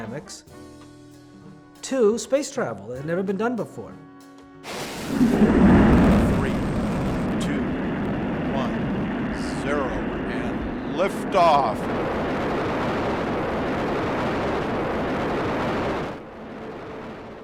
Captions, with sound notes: of chaos dynamics, to space travel. it had never been done before. - [Voiceover] Three, two, one, zero and lift off. (shuttle rockets)